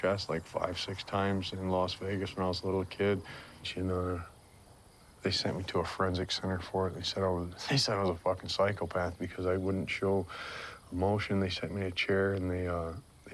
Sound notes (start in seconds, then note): 7.4 chuckles